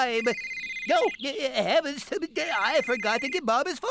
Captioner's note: cell Phone Rings